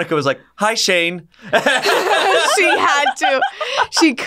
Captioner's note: all laughing